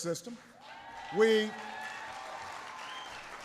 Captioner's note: applause